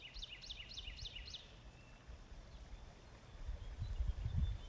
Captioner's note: birds singing